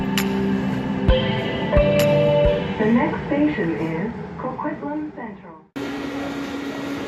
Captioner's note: Skytrain Chime